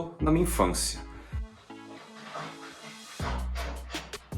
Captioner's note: my dog is scratching on the wooden floor